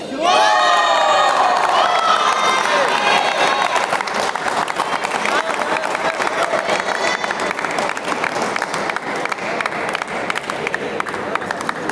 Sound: applause

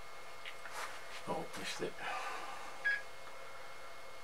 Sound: computer beeps

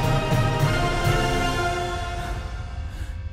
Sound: exhales

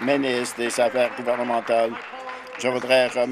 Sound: applause

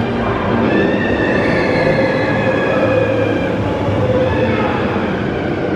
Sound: roller coaster riders screaming

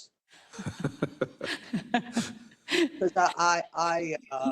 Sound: laugh

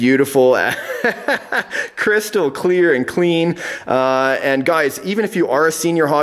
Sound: laughs

